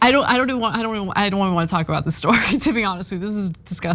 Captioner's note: laugh